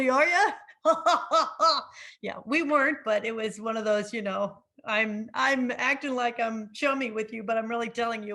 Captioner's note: laughs